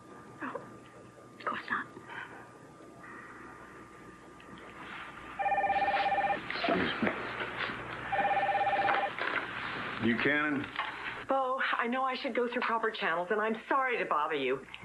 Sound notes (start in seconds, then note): 5.3 phone rings; 8.0 phone rings